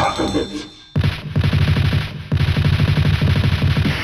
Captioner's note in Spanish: golpes